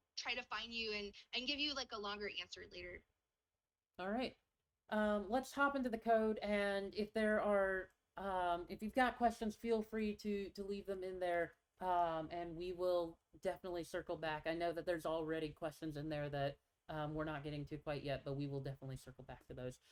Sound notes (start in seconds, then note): none